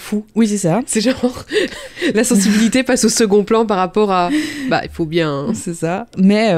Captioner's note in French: rire